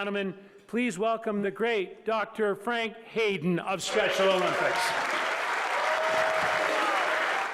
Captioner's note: applause